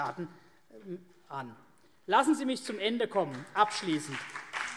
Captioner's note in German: Beifall CDU und BÜNDNIS 90/DIE GRÜNEN